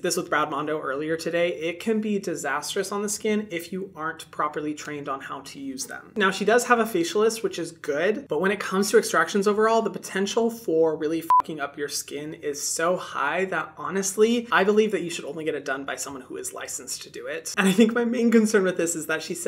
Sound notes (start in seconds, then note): 11.2 beep